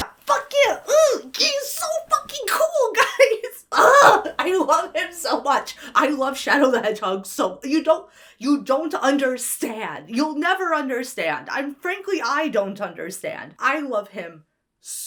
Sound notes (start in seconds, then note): 0.4 gushes; 3.8 groans